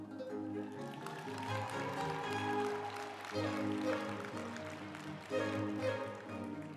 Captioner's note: uplifting music; group applauding